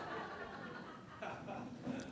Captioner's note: laughter